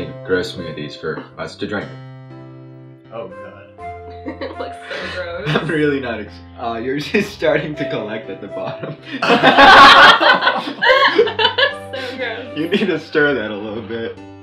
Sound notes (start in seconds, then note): 9.0 laughs